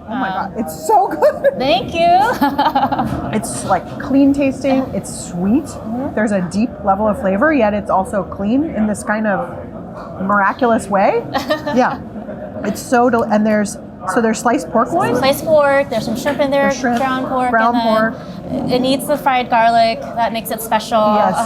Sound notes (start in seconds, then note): 1.9 laughing